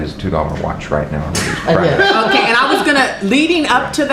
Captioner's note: laughter